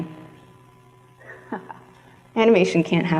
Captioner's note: chuckles